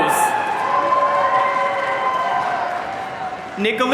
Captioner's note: audience cheering